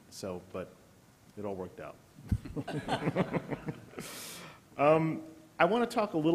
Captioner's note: laughter